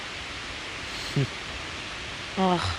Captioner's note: Tex scoffs